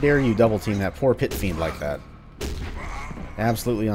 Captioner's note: thwack